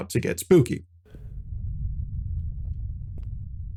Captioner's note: low rumbly ambience